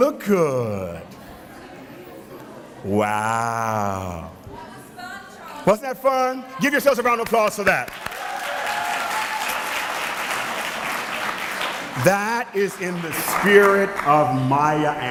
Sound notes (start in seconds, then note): 7.6 applause